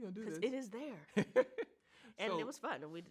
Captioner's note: laughs